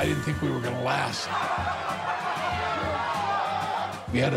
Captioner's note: laughs